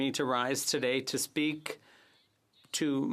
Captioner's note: speaking French